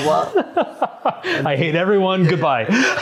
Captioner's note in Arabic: يضحك